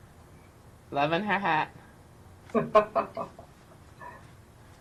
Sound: laughs

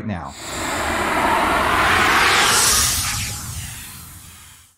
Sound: logo whooshes

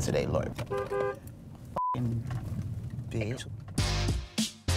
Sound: horn honks

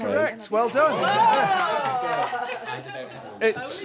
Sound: applause

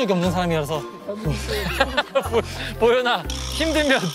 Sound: grunting

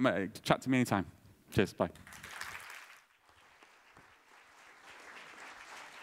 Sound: applause

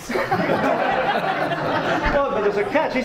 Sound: audience laughs

